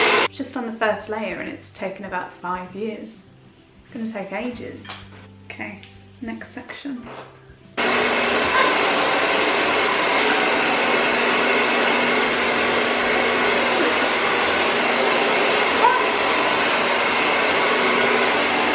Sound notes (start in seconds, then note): 7.8 hair dryer